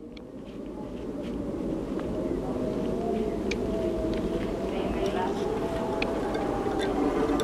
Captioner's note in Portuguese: vento